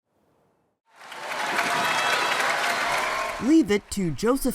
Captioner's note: applause